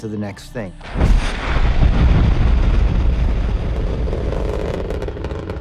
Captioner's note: missile launches